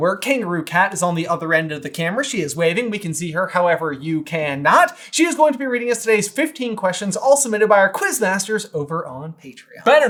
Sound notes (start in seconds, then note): none